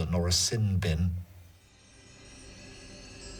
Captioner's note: wind chimes